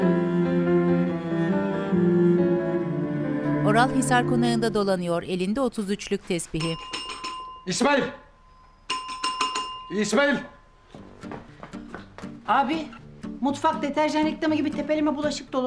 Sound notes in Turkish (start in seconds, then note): 6.5 Zil sesi